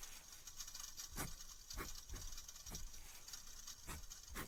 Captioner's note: fire